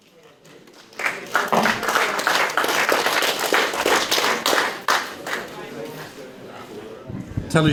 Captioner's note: applause